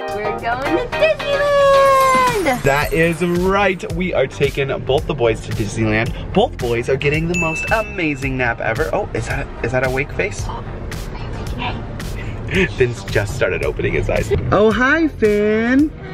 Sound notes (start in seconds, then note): 7.3 ding; 10.2 whispers